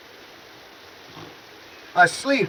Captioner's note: woman mimicking snoring